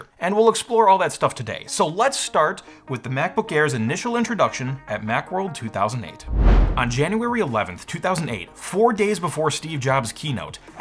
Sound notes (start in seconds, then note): 6.2 swoosh